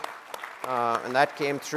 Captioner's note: applause